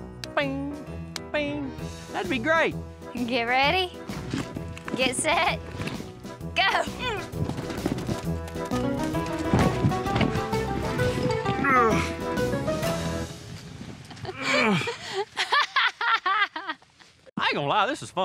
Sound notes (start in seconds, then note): 9.3 thud; 11.6 groans; 14.1 laughing